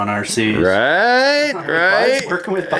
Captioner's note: voiceover